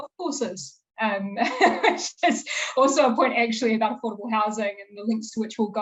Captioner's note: laughing